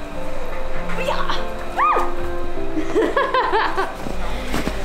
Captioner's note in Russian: смеётся